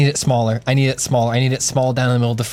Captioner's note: pat